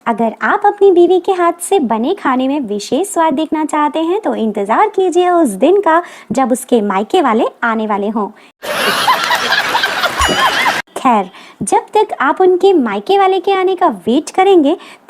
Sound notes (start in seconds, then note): 8.6 laughs